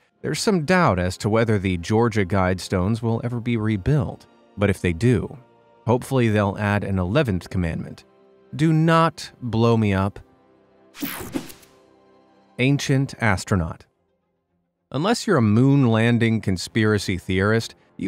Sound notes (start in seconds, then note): 11.0 picture swooshes